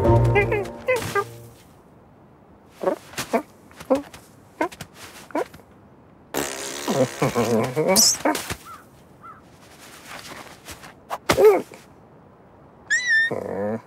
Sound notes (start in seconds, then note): 6.3 Mouse blows a 'Raspberry'